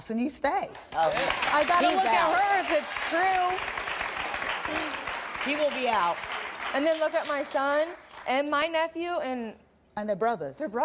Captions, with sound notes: and you stay? (audience applause) - He's out. - I gotta look at her if it's true. - He will be out. - And then look at my son and my nephew. - And they're brothers. - They're brothers.